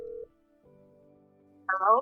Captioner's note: phone Ringing